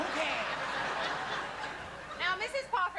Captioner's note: laughter